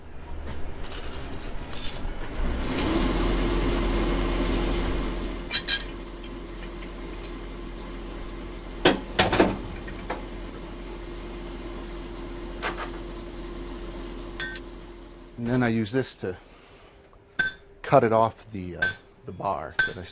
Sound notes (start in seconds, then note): 6.5 clattering